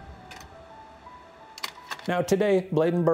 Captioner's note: gentle music; slide clicks